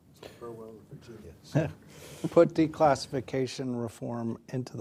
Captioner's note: laughs